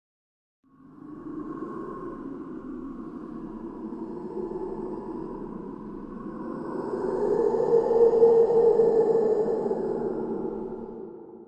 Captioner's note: echoing roar